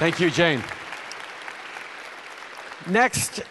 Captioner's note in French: Applaudissements